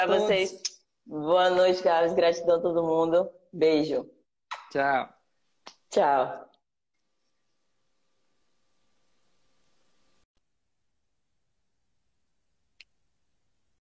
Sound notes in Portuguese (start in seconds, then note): 7.0 silêncio